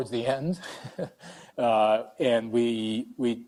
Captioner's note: laughing